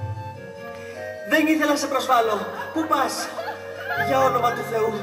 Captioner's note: γέλια